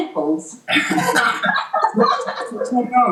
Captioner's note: laughter